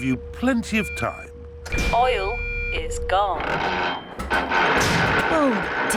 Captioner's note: creaking